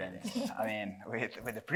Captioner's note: chuckles